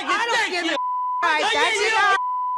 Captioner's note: beeps